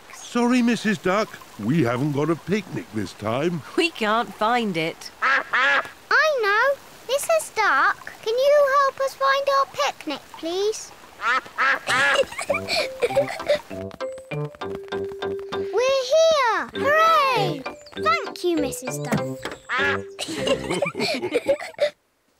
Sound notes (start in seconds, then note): 5.2 quacking; 11.2 quacks; 11.8 giggles; 19.8 all laugh